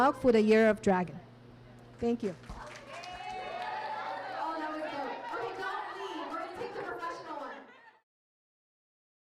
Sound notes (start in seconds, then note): 2.2 applause